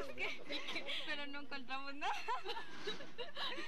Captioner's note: laughing; both laughing